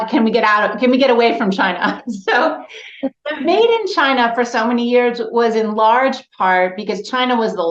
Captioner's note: laughs